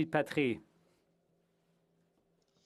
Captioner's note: speaking French